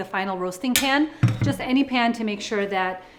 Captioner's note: dish clattering